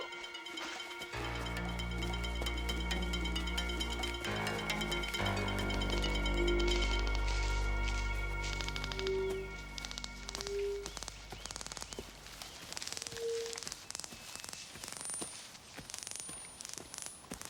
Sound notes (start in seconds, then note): 1.6 ominous music; 7.0 detectors clicking